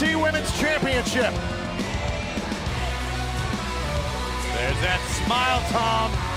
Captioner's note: crowd cheering